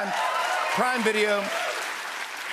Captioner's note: cheers and applause